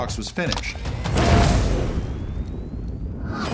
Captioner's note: explosion